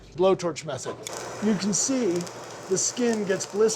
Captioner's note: chili sizzling